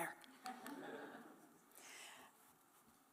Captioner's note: laughter